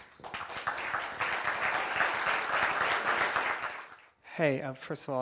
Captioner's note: audience applauding